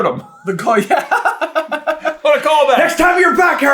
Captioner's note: giggles